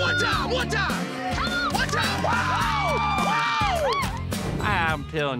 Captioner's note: people cheering, clapping